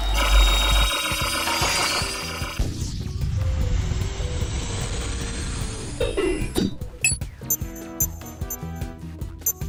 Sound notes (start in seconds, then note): 7.4 beeping